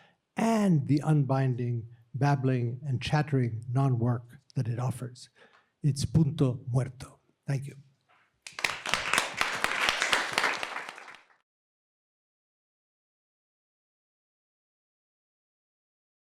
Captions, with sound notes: and the unbinding, babbling and chattering non-work that offers. [SPEAKING SPANISH] Thank you. [APPLAUSE]